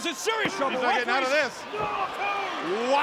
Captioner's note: hands thudding